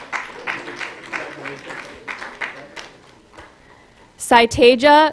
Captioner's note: applause